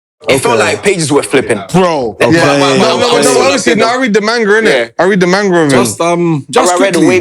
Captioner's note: crowd Noises